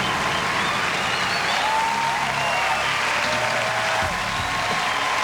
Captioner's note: applause